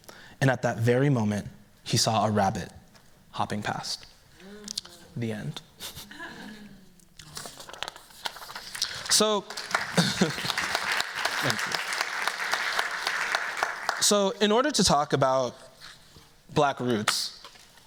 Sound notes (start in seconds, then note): 8.6 applause